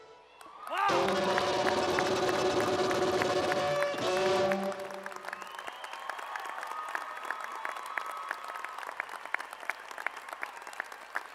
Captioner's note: applause and cheers